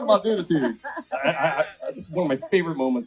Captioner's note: laughs